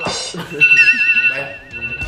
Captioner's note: chuckles